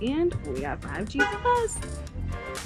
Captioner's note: car honks; upbeat music